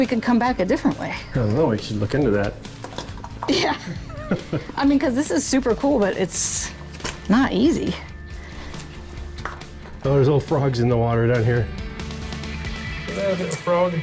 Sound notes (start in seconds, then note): 3.4 pair laughs